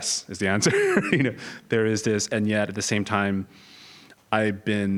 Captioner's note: laugh